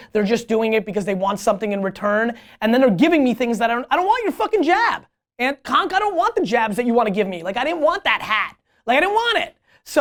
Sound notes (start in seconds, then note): none